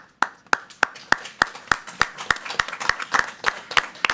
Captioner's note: all applauding